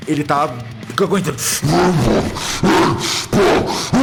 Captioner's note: loud roar